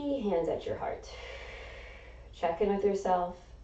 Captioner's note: exhaling